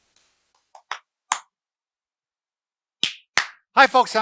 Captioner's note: clapping